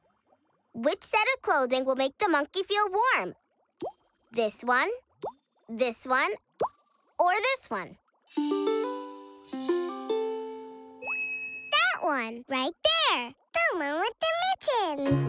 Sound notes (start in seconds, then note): none